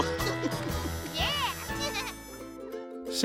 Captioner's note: laughing